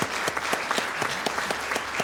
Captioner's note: applause